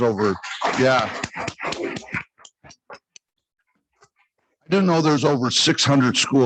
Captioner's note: congregation clapping